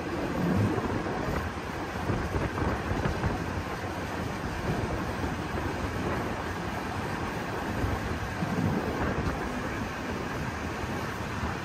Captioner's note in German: Wagen-Geräusche